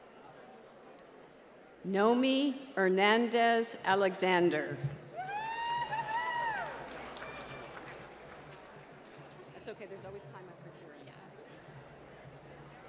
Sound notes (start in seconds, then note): 5.1 applause